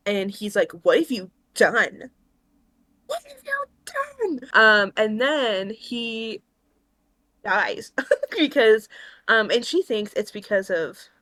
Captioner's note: laughs